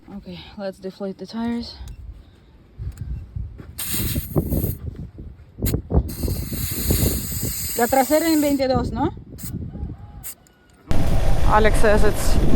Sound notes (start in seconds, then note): 7.1 in Spanish